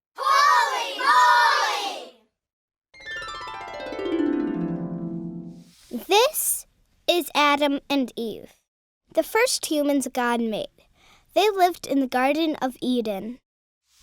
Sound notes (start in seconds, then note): 2.9 harp music; 6.1 voiceover